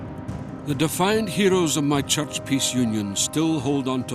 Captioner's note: Voz en off